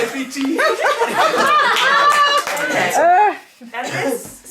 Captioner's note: cheerful laughing